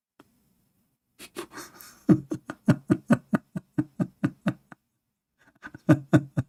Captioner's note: Ketawa